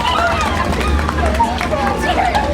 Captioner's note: cheering